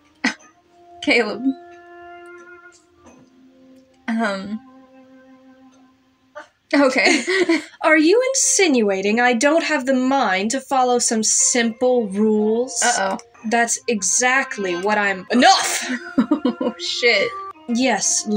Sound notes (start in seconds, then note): 0.4 scoff Laugh; 7.0 chuckle; 15.8 wavery Laugh